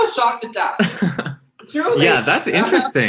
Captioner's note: laughs